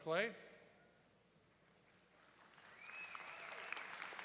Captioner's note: applause